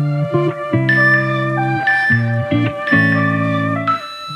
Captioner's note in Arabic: صوت تنبيه مؤقت